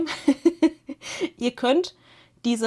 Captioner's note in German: gelächter